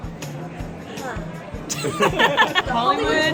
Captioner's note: laughing